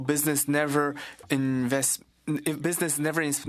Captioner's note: speaking French